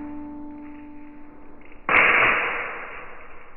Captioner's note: impact sound